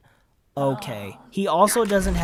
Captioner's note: exasperated groan